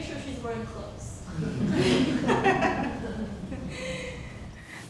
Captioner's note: laughing